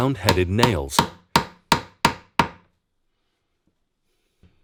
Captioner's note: hammer banging